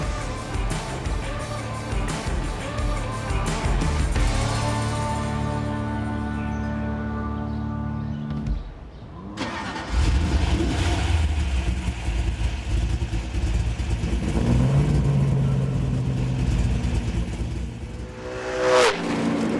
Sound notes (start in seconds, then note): 9.3 car engine starts; 13.7 car engine roaring